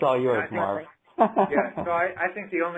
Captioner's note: laugh